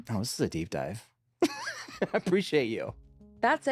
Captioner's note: laughs